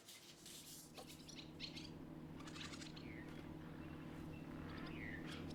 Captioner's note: barn swallows chattering